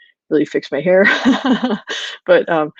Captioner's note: laughs